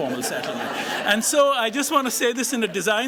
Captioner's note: laughter